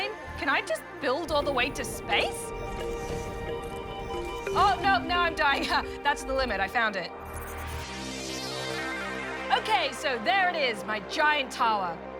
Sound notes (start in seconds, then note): 3.6 beeping